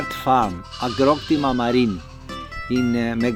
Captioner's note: speaking Greek